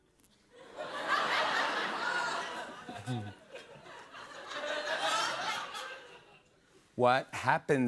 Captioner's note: laughter